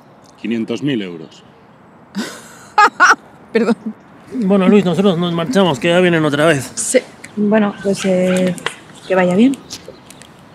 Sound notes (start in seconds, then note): 2.2 laughs